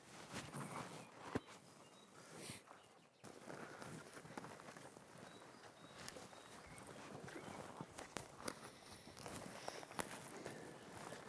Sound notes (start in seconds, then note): 3.3 grass crunching underfoot